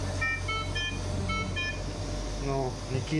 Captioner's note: machine beeps